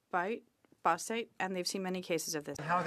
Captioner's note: speaking French